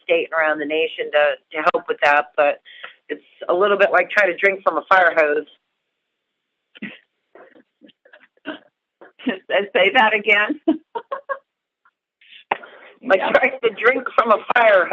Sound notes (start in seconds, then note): 10.6 chuckle